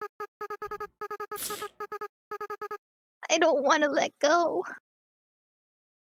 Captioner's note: sniffles